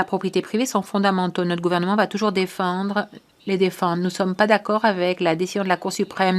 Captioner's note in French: voix de l'interprète